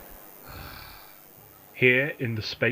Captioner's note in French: Le lieutenant Gordon pousse un profond soupir